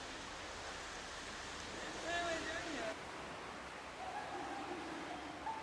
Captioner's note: speaking foreign language